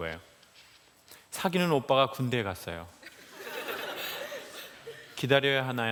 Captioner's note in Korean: 웃음